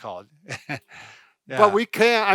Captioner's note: chuckles